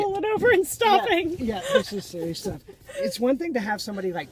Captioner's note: laughs